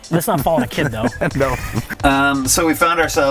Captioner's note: chuckling